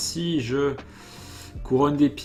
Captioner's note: inhale